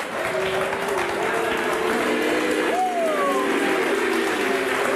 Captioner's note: audience applauding